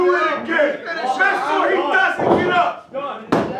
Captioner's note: shouting